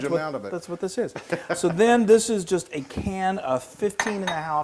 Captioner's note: laugh